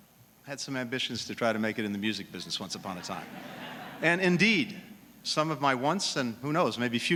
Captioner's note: laughter